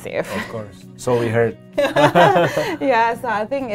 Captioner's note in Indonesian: keduanya tertawa